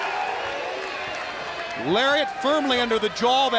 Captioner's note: crowd cheering